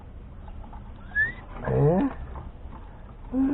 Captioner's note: whistling, exclaiming